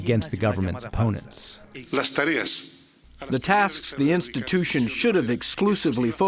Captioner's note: through translator